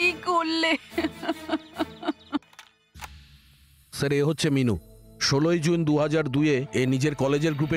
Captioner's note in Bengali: সশব্দ হাসি